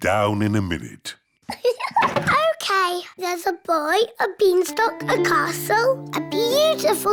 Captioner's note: laughs